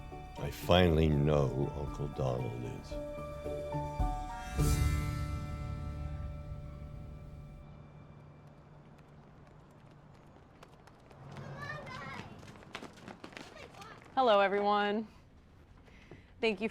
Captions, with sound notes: - I finally know who Uncle Donald is. (suspenseful music) (kids chattering) - Hello, everyone.